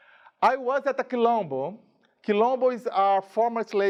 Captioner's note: speaking in a foreign language